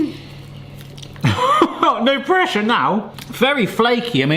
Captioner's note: laughs